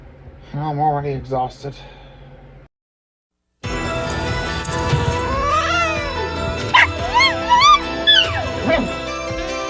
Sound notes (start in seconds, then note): 3.6 Caprice hisses, then growls; 6.7 Ella barks and howls